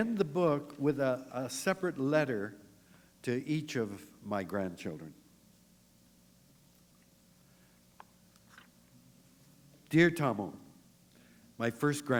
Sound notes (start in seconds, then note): 6.1 pause